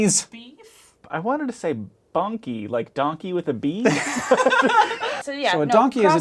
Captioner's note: laughing